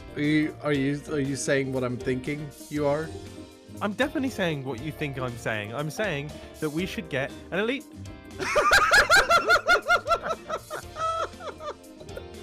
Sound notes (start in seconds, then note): 8.4 laughter